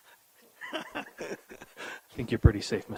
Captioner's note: chuckles